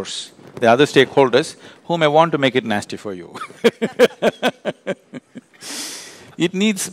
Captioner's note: laughs